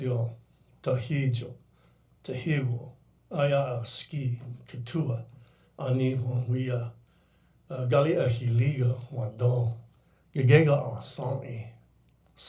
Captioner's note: speaking in foreign language